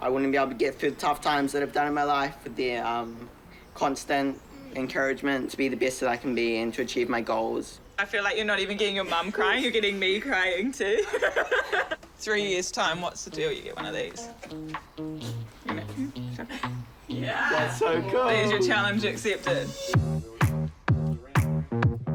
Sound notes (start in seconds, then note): 11.8 laughs